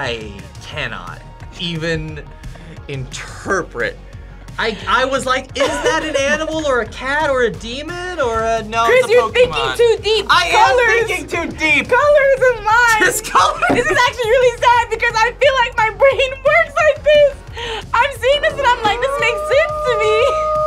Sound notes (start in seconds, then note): 13.5 laughs